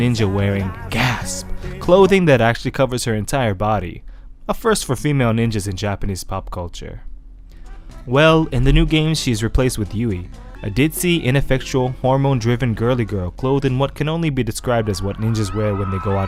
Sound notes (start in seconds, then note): 0.6 gasp